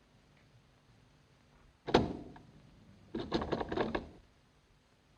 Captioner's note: doorknob rattling